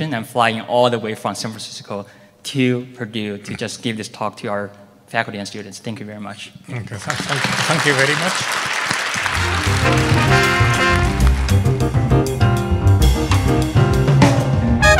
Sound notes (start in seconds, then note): 9.5 audience applauding; 11.6 jazz music